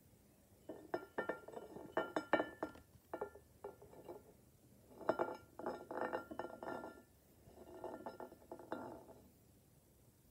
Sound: bowl rolling on table and clinking against plate

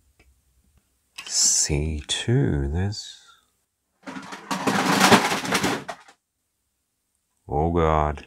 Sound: loud crashing sound

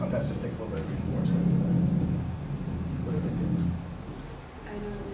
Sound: background shuffling noises continue

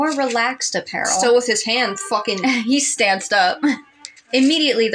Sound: chuckle

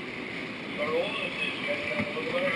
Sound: man On Radio

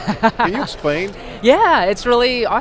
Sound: laughs

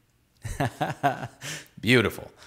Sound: laughing

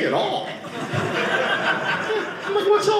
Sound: audience laughing

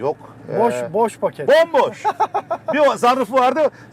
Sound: laughs

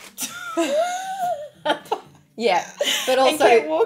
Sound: women laughing

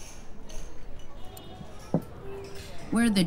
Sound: cutlery clinking; ambient conversations

